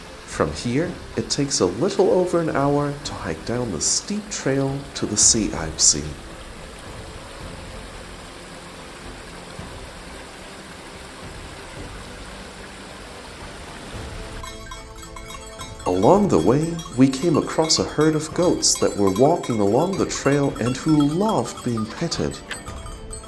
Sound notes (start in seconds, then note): 6.7 sound of water